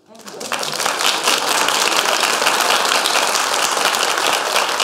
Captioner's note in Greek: χειροκροτημα